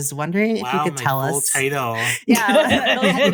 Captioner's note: laughter